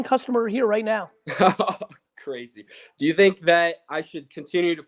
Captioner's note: laughs